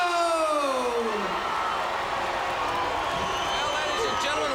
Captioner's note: crowd cheering